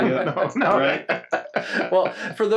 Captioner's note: everyone laughs